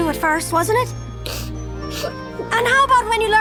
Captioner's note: sniffles